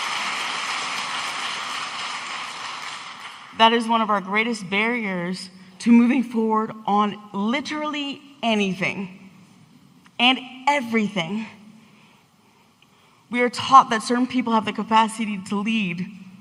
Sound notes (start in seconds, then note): 3.5 audience applauding